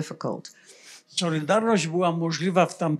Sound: foreign language

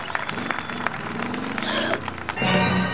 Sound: gasping

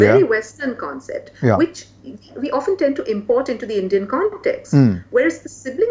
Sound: हसतात

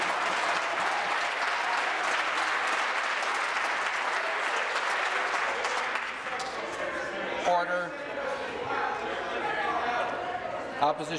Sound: some Applause

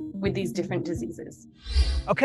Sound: air whooshes

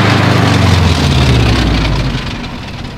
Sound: gear crunching

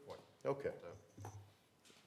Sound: none

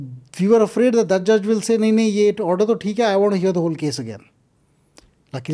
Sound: speaks in Hindi

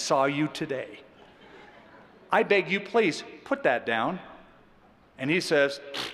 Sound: laughter

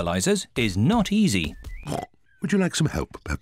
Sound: snorts

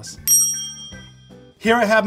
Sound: bell dings

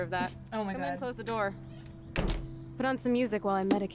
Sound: door closes

